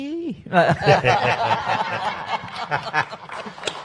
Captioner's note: panel laughs; audience claps